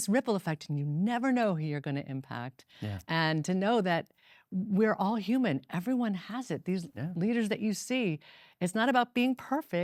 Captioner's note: none